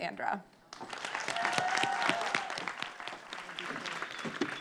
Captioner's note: audience clapping